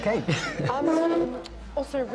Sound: chuckles

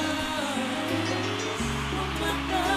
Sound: audience cheering

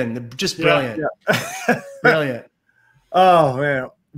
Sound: laughs

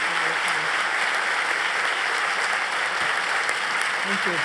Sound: applause

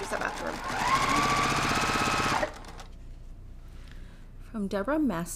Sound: sewing machine resounding

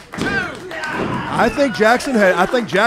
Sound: yelling

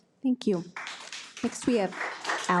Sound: audience applauds

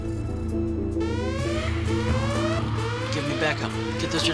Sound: alarms beeping

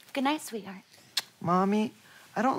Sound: kiss

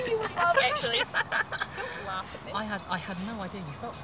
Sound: laughing

